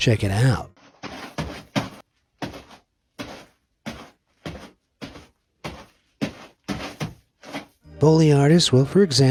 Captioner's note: fabric crunches